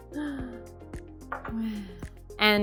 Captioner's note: gasp; sigh